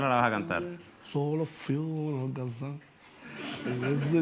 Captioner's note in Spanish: canturrea